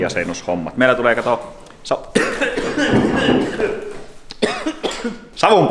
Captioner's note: almost dies while coughing